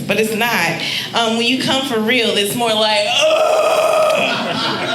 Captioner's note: groaning; audience laughing